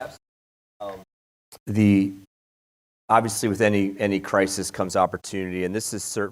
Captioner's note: audio warble